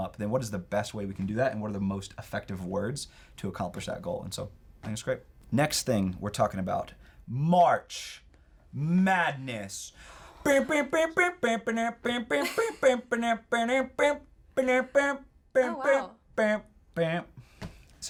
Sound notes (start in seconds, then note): 10.4 hums; 11.7 chuckles